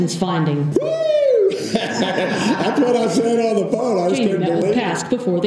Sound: laugh

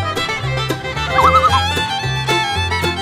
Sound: loon call

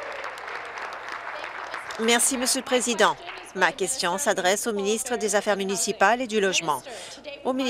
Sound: applause

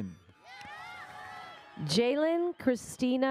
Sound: audience cheers

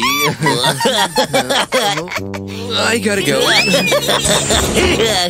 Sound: farting

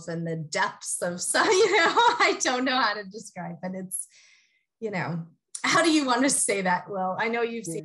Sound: laugh

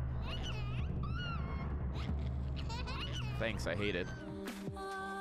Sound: baby noises

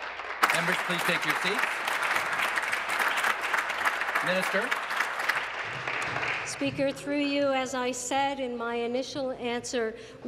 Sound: applause

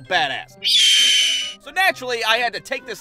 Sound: screech!

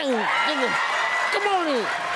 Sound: audience laughing

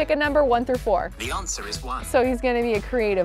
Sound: voice On Phone

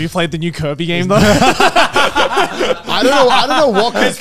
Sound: all laughing

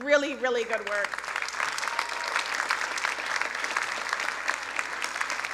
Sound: crowd applauding

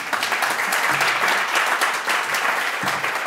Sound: applause

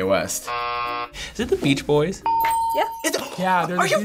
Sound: buzzer; ding

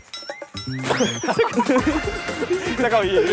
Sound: bouncy; burst into laughter

